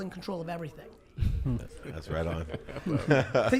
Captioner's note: laughs